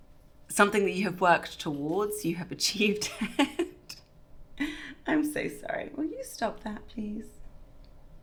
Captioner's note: giggle